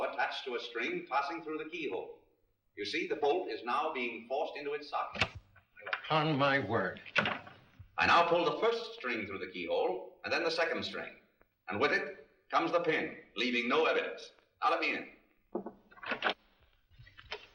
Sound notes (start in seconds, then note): 5.2 bolt clicks; 6.9 bolt clicks; 15.5 door opens